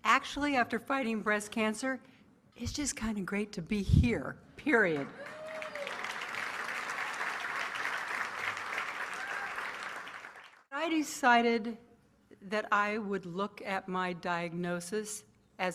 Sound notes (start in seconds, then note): 4.9 applause